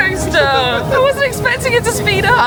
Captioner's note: laughing